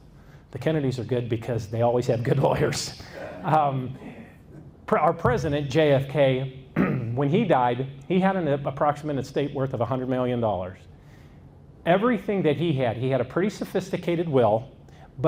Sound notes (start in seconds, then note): 3.1 audience laughs